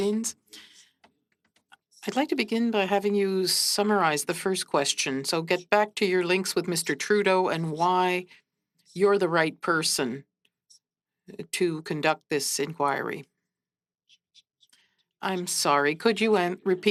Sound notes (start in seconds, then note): 1.8 speaking French